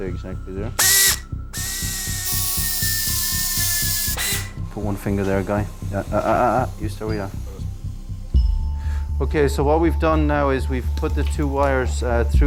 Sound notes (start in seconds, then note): 0.7 tool whirring